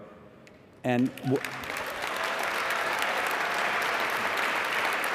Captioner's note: applause